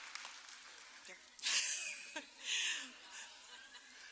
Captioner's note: cheers and applause